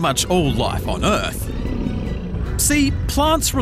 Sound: growling

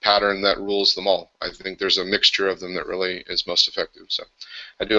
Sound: none

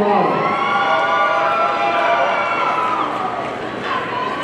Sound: audience cheering

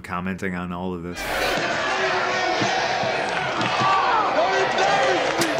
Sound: crowd cheering

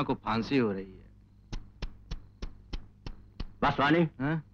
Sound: clicks tongue

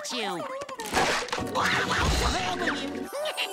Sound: screaming; laughing

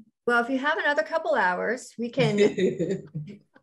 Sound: laughs

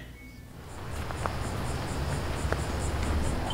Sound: vehicle engines running; phone beeps

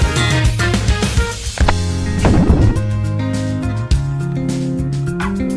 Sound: hit and slowed-down splash

